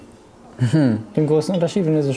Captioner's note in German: Erheitertes Stöhnen